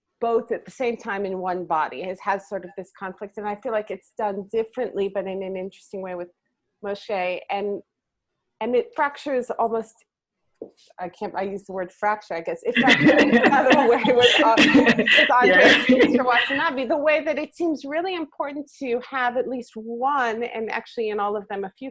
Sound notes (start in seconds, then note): 12.7 laughs